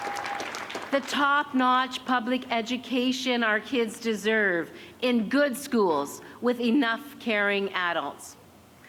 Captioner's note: cheers and applause